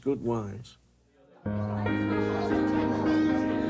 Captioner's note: lively crowd chatter